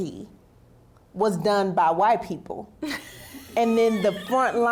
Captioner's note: laughs